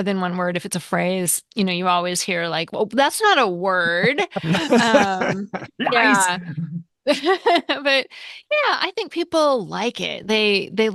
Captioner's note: laughter